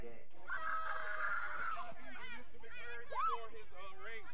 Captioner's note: yelling